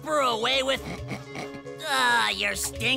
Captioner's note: sniffing